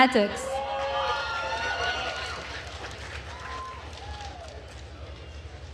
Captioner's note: attendees cheering and applauding